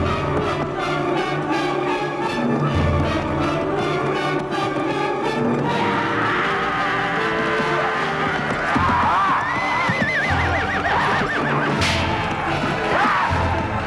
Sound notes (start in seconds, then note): 6.2 villager roars; 8.7 raider yells